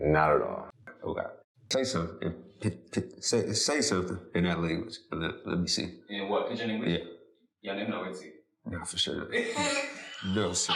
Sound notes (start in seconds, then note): 7.2 In Pidgin